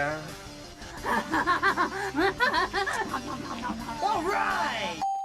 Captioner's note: panting; bell dings